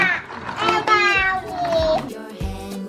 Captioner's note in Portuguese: balbuciando